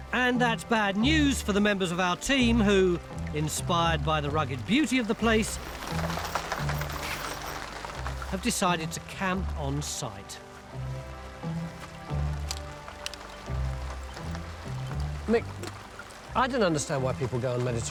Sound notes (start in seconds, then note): 5.8 pattering rain